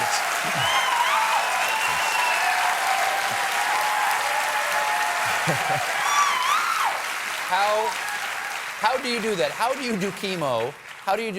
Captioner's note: cheers and applause